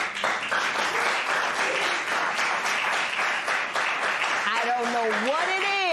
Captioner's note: applause